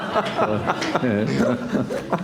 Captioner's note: laughter